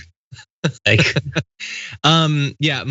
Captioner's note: laugh